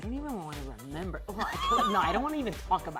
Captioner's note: laughing